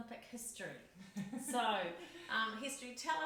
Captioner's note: laughs